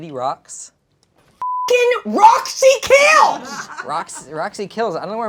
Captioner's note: beep